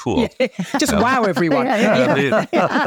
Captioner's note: panelists laughing